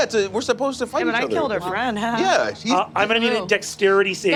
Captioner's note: laughs